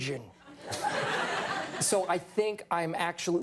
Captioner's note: audience laughs